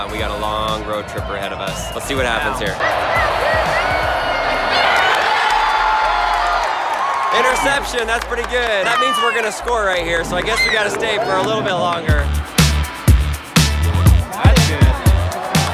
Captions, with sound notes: we've got a long road trip ahead of us. Let's see what happens here. (cheering) Interception, that's pretty good. That means we're gonna score right here so I guess we gotta stay for a little bit longer. (upbeat music)